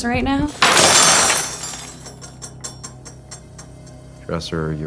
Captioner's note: metal utensils clanging